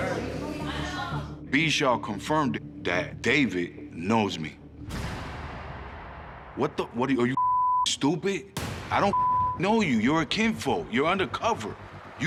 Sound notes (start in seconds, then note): 4.8 heavy metal pounding; 7.3 beep; 9.1 beep